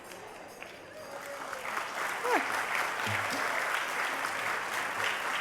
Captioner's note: applause